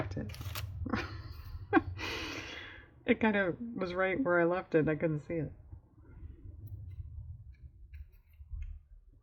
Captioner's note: laughs